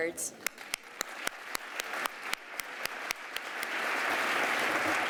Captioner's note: applause